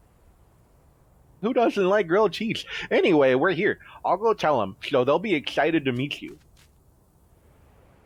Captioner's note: footsteps